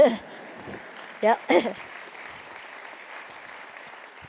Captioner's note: Khán giả vỗ tay